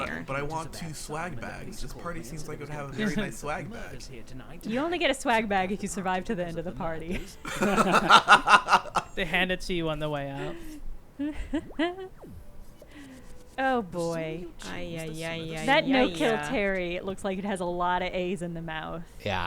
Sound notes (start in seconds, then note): 6.6 group laughing